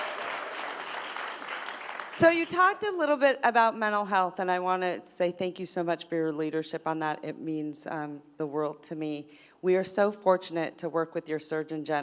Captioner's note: applause